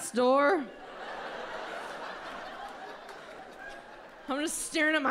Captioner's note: audience laughs